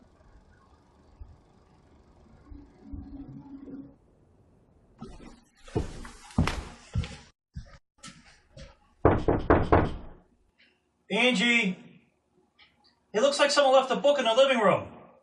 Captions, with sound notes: [ footsteps ] [ knock] Angie, it looks like someone left a book in the living room.